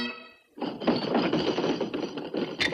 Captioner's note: pounding table